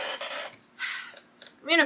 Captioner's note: sighs